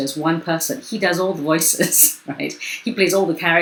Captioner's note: chuckles